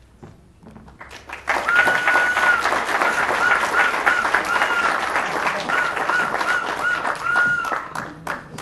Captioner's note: applause